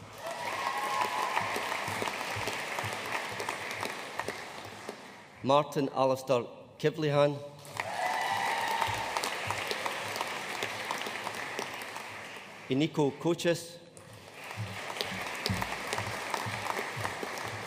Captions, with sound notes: (AUDIENCE CHEERING AND APPLAUDING) Martin Alistair Kivlehan. (AUDIENCE CHEERING AND APPLAUDING) Eniko Kocsis. (AUDIENCE APPLAUDING)